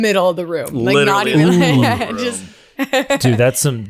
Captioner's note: laughs